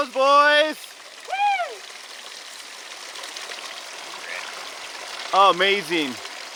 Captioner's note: water splashing